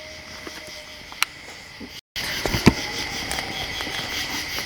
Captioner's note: insects chirping